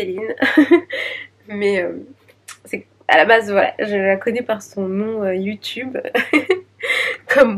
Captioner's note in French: rires